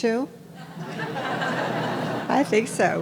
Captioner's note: audience laughing